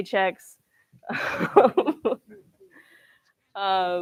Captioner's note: laughs